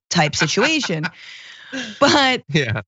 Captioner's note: laugh